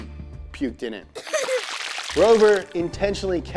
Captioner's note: baby pukes